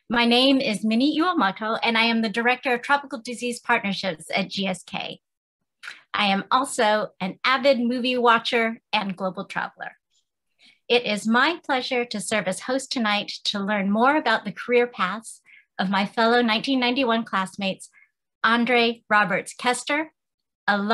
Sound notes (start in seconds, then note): none